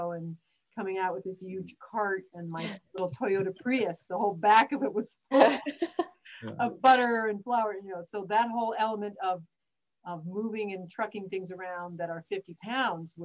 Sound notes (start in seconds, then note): 5.4 group laughs